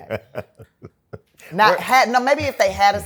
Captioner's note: laughter